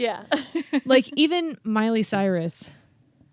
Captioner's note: laughs